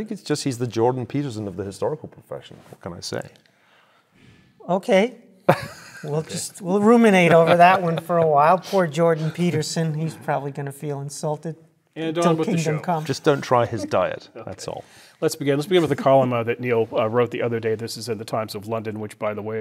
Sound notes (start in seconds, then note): 6.0 laugh